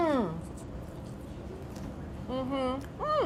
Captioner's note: moaning